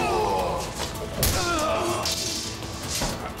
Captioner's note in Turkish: Bağırma sesi; Vurma sesi; Kılıç düşme sesi; Müzik - Hareketli